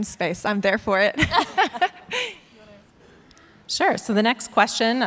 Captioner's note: laughs